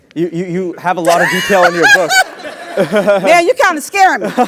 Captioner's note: laugh